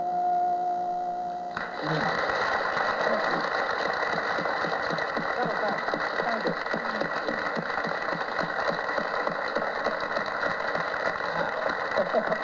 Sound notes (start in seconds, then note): 1.5 applause